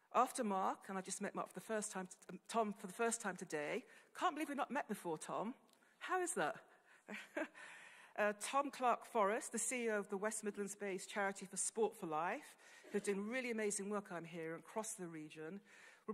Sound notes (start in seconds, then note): 6.7 laughing